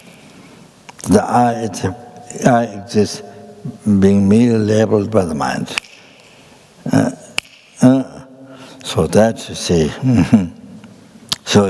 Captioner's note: snaps his fingers